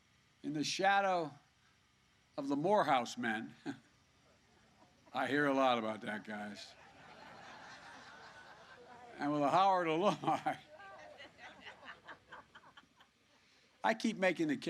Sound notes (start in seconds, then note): 6.6 laughter